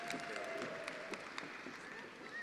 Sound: attendees applauding

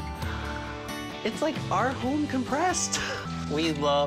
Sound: gasps

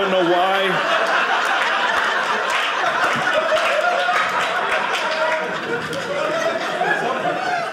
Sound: audience laughing

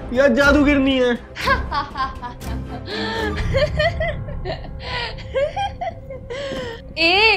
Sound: laughing

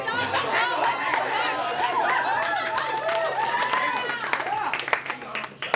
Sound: applause

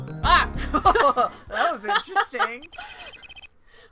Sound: laughs

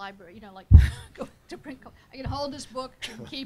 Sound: laughs

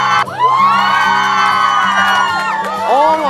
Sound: cheers explode from here and there

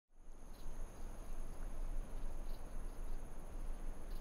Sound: bugs chirping

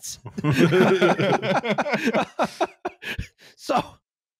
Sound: all laughing

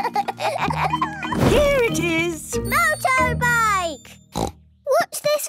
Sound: snort

